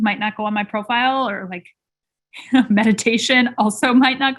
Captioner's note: chuckling